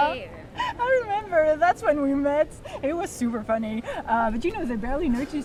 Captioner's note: laugh a little